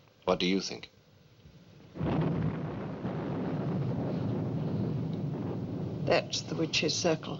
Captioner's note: thunder Rumbling